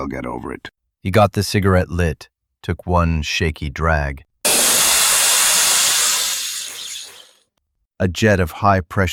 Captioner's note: SFX: foam cannon